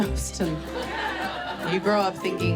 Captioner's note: audience laughs